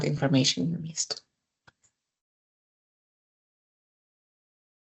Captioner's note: silence